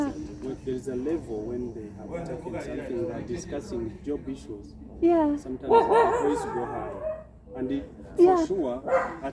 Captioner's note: dog barking